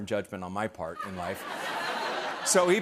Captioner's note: laughter